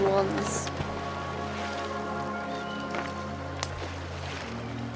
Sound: splashing sounds

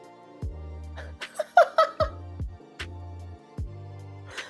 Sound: woman laughs

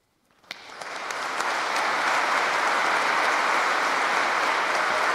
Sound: audience applauding

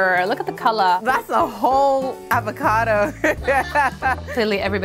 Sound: laughs

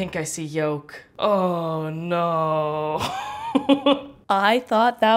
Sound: laughs

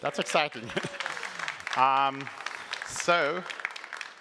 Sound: applause

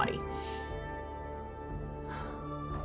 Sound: inhaling sharply; exhaling

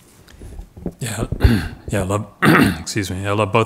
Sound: clears throat

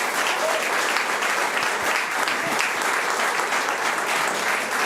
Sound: audience applauds

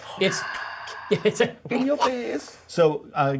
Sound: laughs

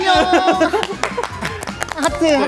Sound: sending applause

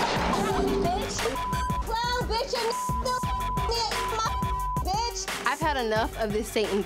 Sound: beep

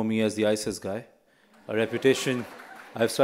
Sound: laughter

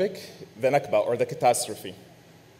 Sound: man speaking foreign language

